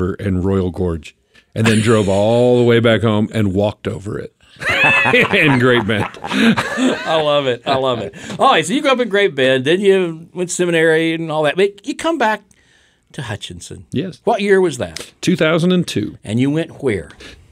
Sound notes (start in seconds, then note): 4.5 group laughs